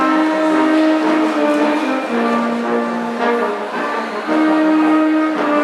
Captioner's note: audience applauds